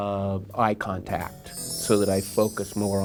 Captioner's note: bells chiming